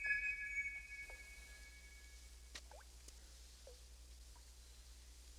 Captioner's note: whistle chiming